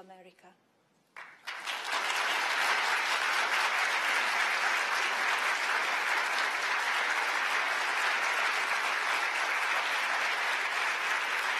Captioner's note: applause